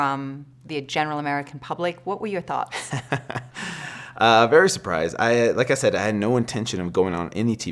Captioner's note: laughs